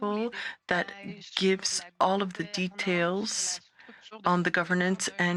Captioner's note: speaking French